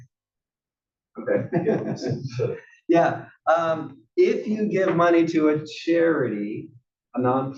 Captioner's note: laugh